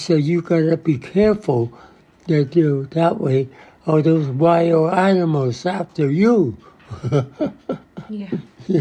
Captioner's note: <laughs>